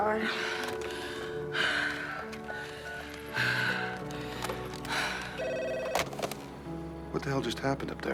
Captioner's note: sigh